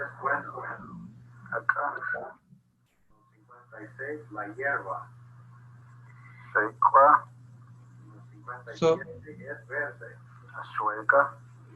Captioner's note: man speaking Chontal